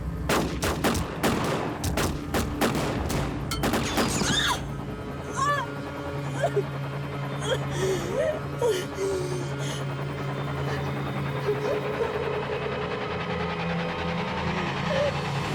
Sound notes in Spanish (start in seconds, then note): 6.3 grito; 11.0 sollozos